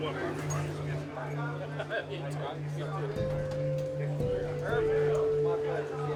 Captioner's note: group laughs and chats indistinctly